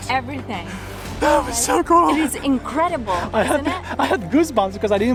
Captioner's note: winded